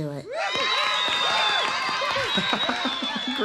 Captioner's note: audience cheers; Conan laughs